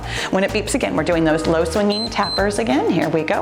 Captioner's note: timer beeps